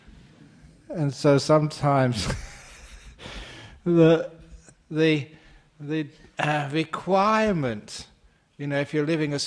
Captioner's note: laughing